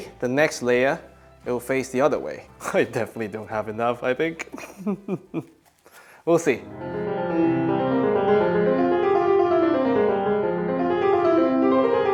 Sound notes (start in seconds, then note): 4.4 chuckles; 6.5 classical music